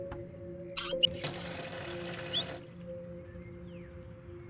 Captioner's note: water flows